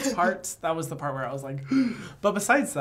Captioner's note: gasps